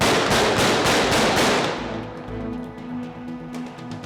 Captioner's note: gunshots